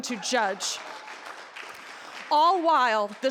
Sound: audience cheering

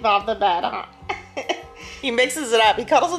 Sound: chuckling

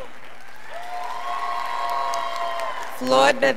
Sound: scholars applauding

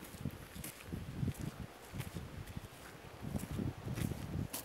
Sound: footsteps crunching

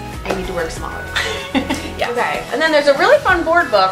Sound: laughs

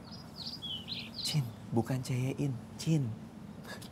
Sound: whispering

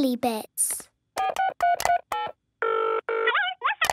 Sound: dials phone; on phone

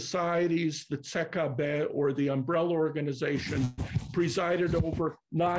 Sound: non-english

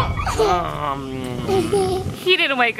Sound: laughing

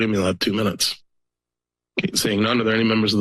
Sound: pause

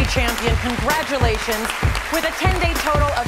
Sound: audience cheering

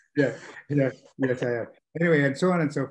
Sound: laughing

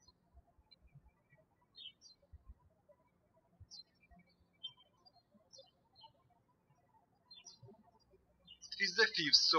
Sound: birds chirping

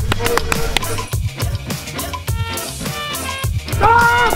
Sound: patting sounds

